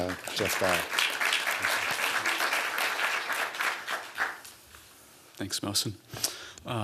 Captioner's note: applause